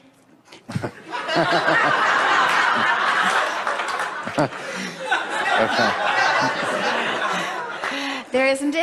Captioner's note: audience laughs